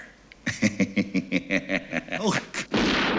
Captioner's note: cackling